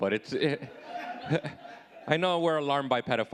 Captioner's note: audience laughing